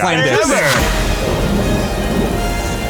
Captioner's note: exploding sound effects